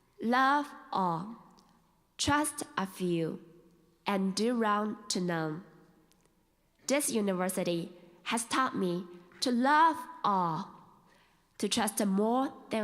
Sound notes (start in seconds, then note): none